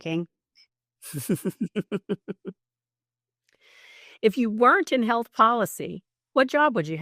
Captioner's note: laughs